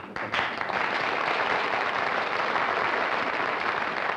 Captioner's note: applause